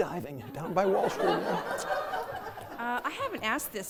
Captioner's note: laughter